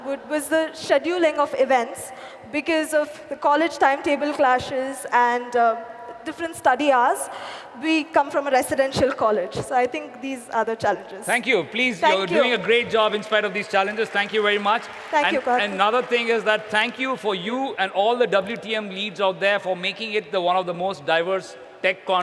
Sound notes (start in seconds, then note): 15.4 applause